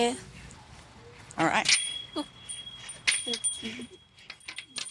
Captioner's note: laughing